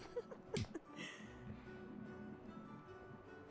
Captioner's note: laughing